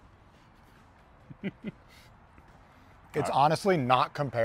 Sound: chuckles

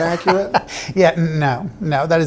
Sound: laughter

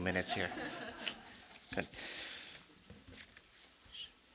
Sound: audience laughing

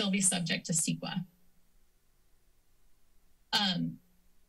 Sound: silence

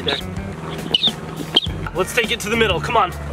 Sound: toy squeaking

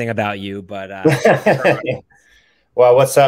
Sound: laughing

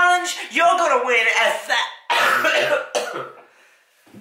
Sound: cough

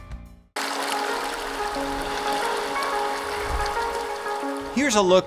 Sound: water rippling; light music

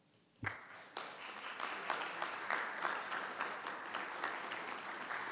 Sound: applause and cheers

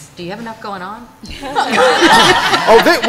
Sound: laughter

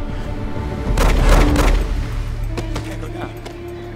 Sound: guns firing

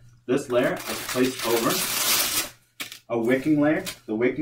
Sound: velcro ripping

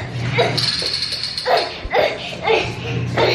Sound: grunting

